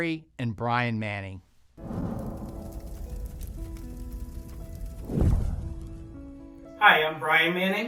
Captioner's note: torch blazing; soft music